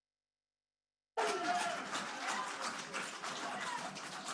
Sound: cheering and applause

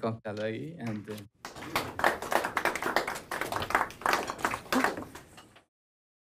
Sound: applause

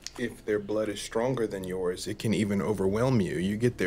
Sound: none

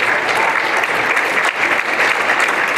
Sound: applause

